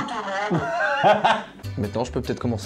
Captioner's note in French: rire